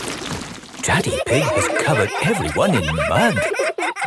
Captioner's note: all laughing